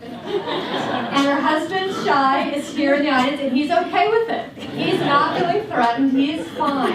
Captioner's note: laughter